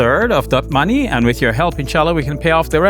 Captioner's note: speaks Arabic